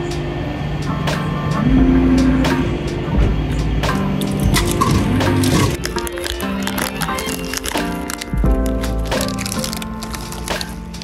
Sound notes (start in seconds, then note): 3.1 machine humming; 4.3 machine clicking; 6.2 packet rustling